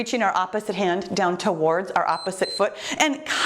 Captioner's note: timer beeps